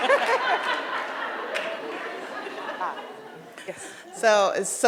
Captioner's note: audience laughs